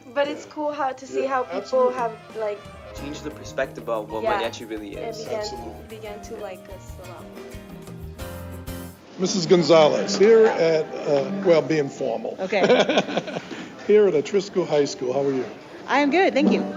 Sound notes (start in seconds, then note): 7.8 jazz music; 12.6 laughing